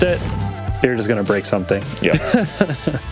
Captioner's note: laughs